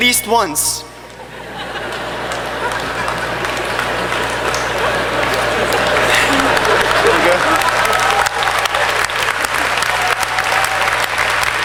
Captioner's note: laughter and clapping